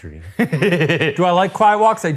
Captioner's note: laughing